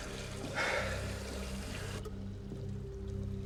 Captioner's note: sighs